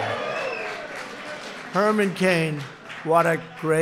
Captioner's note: applause